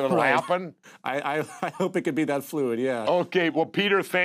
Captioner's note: laughs